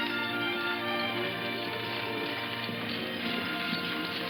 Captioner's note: speaking foreign language